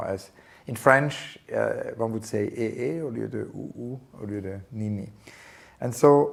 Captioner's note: french speech